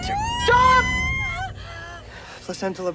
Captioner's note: screaming